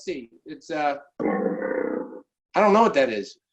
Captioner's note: animal growls